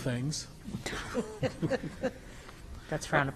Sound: attendees laugh

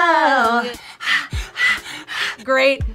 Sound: rhythmic panting

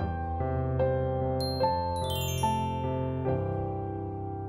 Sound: bell chimes

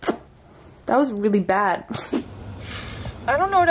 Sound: laughs

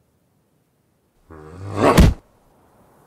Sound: punch

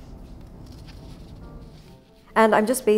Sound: fabric rustling

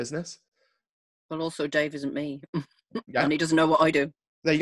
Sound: laughs

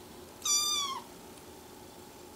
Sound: meow

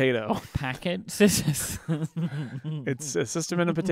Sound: both laughing

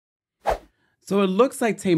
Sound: air whooshing

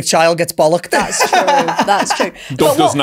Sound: laughing

